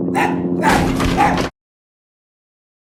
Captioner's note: overlapping barking and police sirens; door breaks open; silence